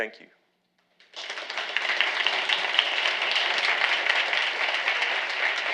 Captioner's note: audience applauding